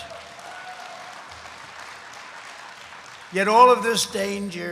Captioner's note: applause